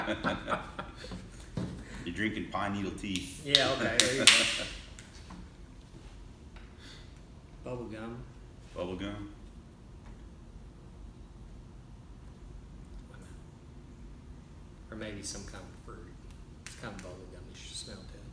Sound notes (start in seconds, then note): 3.8 laughing